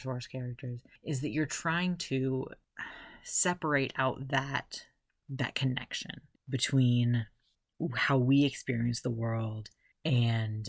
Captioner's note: sigh